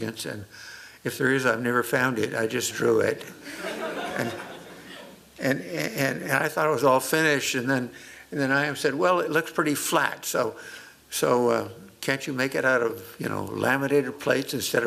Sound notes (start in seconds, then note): 3.4 laughter